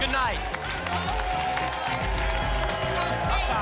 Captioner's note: applause and cheering cont